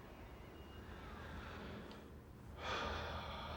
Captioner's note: sighs